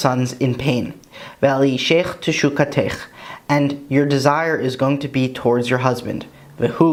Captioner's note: Hebrew